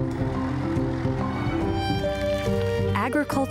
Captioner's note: equipment humming